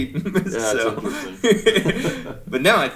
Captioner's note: chuckling